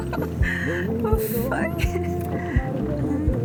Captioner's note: sigh